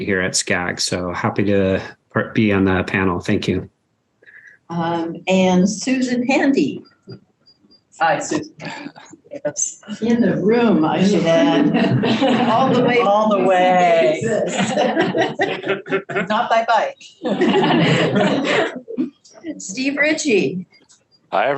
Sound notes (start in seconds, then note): 12.4 group laughs; 17.1 group laughs